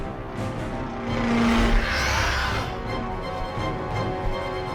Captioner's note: dramatic music; creatures screeching